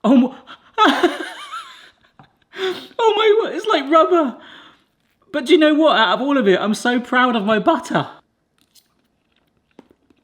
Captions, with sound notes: Oh my. (laughs) Oh my word, it's like rubber. But do you know what? Out of all of it, I'm so proud of my butter.